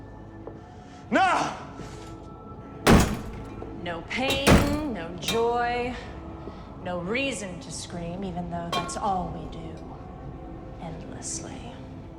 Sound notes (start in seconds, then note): 0.2 suspenseful music; 2.8 door lock clanging